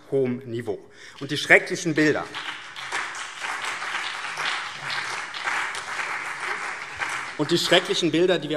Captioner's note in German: Beifall BÜNDNIS 90/DIE GRÜNEN und CDU